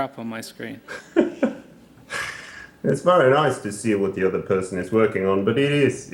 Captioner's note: laughs